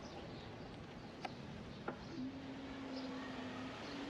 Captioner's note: birds chirping